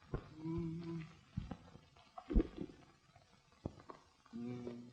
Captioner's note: humming musically